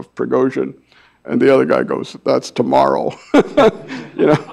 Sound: laughs

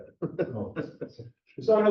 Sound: laughs

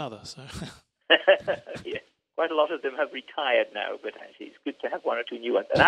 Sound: laughs

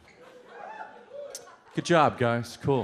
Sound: some people cheer

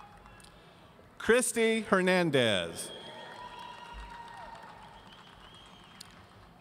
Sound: audience cheering

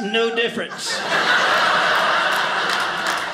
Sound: audience laughing

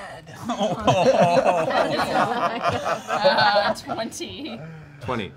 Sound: laughing

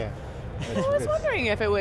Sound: chuckling

